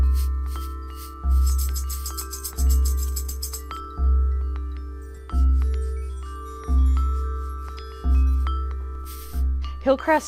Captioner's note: chimes tinkling